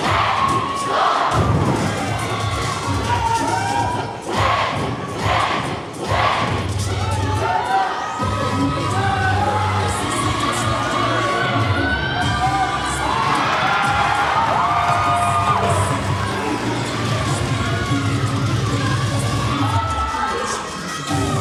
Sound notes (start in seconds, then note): 0.1 cheerleaders chanting; 8.8 cheer music playing; 13.3 audience cheering; 17.0 cheer music playing